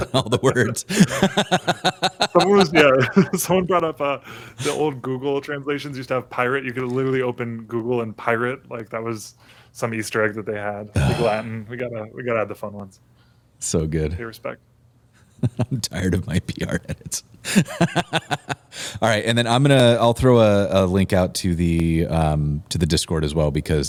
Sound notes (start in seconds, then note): 17.4 laughter